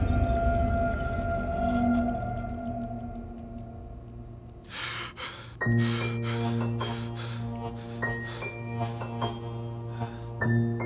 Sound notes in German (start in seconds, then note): 0.0 Musik verklingt; 4.7 Erschrecken